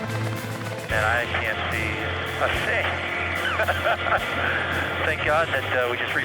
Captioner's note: laughing